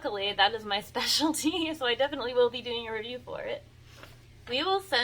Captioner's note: giggles